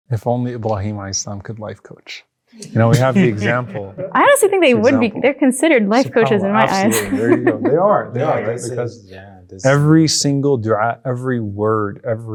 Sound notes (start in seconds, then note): 2.7 everyone laughs; 5.9 laughs